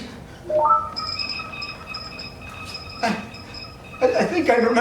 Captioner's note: computer processing noises fill the room